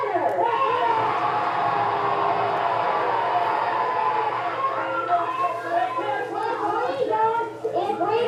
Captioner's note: cheers